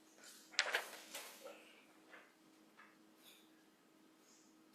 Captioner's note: paper rustling